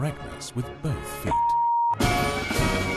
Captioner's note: beep; dramatic music